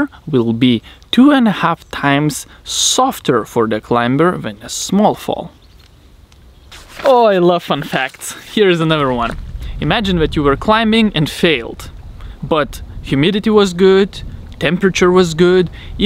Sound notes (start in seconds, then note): none